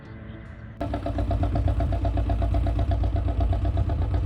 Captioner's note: canal boat engine noise